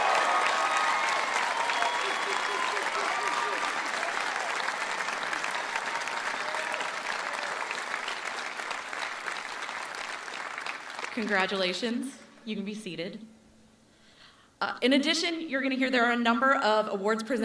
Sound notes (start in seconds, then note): 4.7 cheering and applause